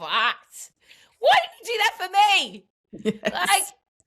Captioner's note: laughs